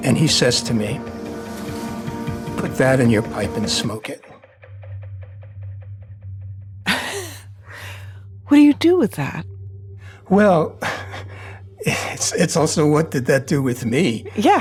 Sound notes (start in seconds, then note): 6.9 laughing